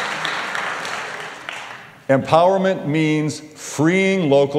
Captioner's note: applause